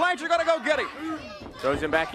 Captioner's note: crowd cheering